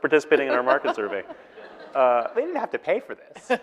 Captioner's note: audience laughing